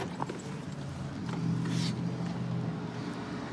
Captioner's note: distant traffic hum